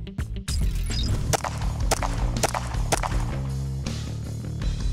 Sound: gunshots

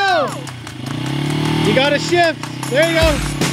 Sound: engine revving

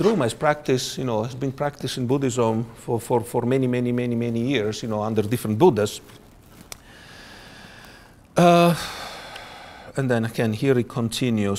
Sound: sighs

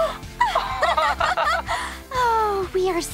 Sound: laughing

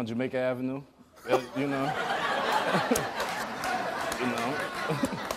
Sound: audience laughs

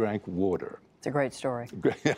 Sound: laughter

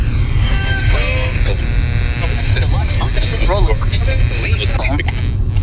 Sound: radio interference cracking

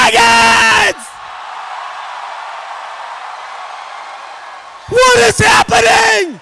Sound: cheering

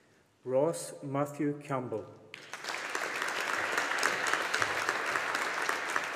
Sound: audience applauding

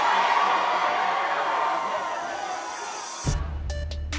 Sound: crowd chanting "Rigo"; crowd cheering

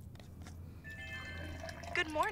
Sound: chime sounding; liquid pouring

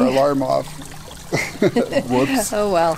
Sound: laughter

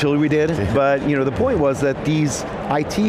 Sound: chuckles

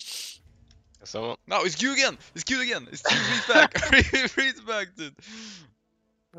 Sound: hahaha

